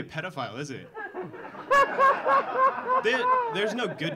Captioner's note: audience laughing